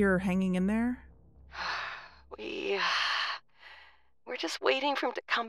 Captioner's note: sigh, pause